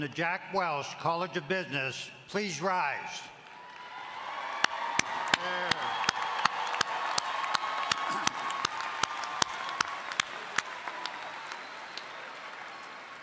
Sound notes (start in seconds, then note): 4.2 all applauding